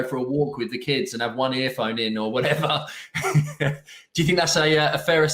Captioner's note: laughing